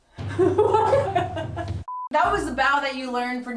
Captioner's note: both laugh